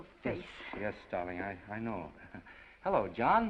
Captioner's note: chuckles